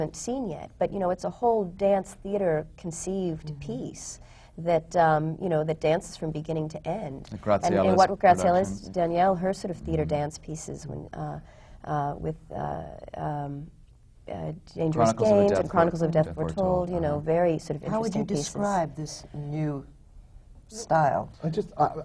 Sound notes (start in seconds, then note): none